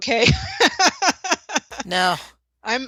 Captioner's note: laughter